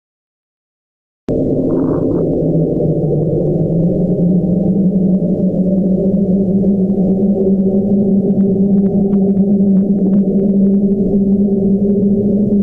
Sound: ominous wind

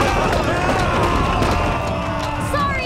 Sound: screaming

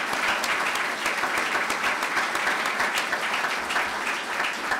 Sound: clapping

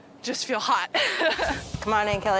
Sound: chuckling

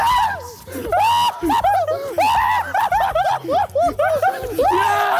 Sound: cheering And Laughing

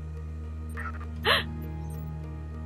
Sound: gasp

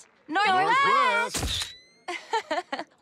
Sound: picture snaps; laughing

